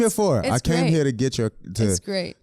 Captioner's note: both laughing